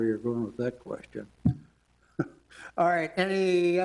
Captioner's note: chuckles